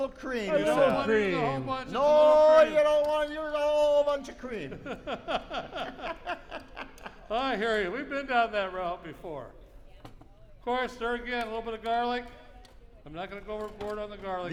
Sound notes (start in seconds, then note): 4.5 laughter